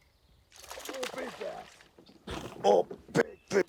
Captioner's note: water splashing